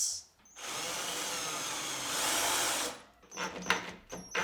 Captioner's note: drill whirring